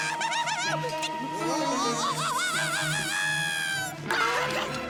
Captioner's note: screams